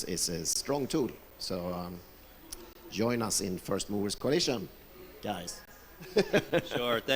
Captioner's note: laughs